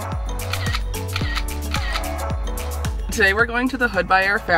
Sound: camera shutter snaps

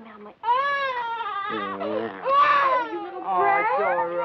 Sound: baby crying

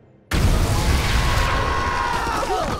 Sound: screaming

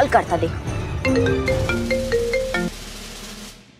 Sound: phone ringing

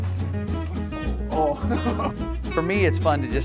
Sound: laughs

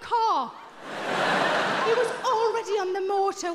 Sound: audience laughing

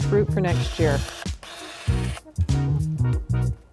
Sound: pruner whirs

